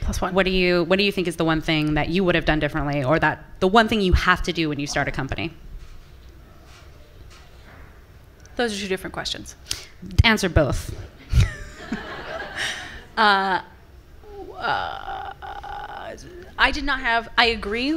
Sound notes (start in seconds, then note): 11.3 audience laughing